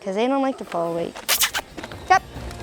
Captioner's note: chirrups to cows